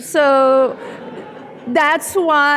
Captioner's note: audience laughing